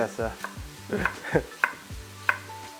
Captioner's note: chuckles